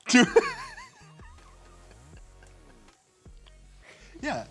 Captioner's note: laughs